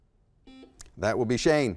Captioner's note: buzzer